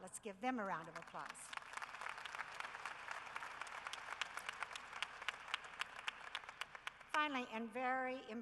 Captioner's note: applause